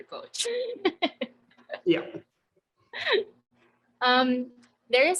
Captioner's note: laughing